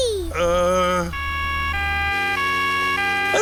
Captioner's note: siren wailing